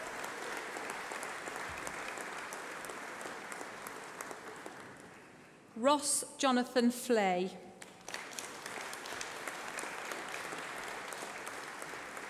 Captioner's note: applause